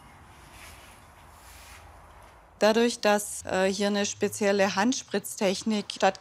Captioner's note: none